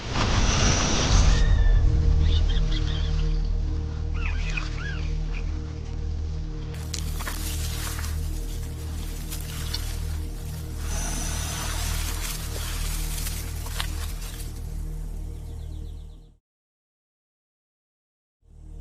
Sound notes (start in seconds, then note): 0.0 dramatic whooshing; 1.4 rat squeaks; 15.8 birds chirping